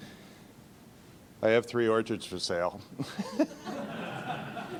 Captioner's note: laughing